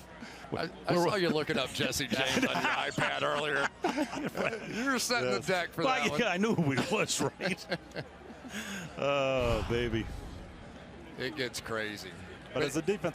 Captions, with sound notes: So-- I saw you looking up Jesse James on your iPad earlier. [laughter] You're setting the deck for that one. I knew who he was, right? Oh, baby. It gets crazy.